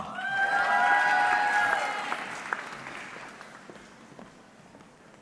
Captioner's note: audience cheering